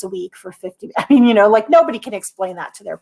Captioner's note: laughter